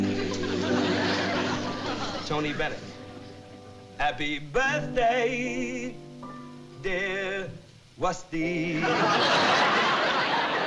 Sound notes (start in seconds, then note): 3.6 impersonating tony bennett; 3.6 singing